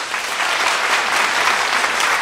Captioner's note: applause